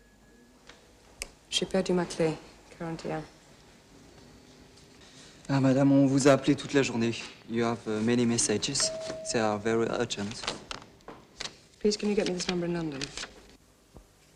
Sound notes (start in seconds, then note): 1.2 speaking french; 5.3 speaking french